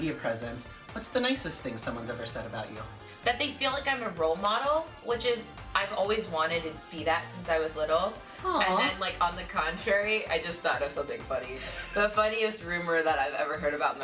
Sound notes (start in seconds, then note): 8.5 laughing